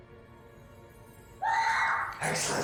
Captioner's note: woman screams